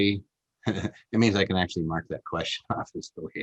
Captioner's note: chuckles